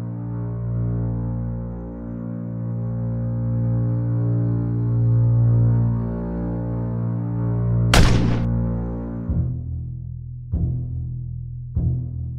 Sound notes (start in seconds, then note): 7.9 gun bangs; 9.5 ominous music